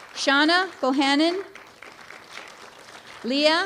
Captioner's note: applause